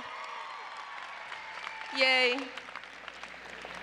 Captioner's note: applause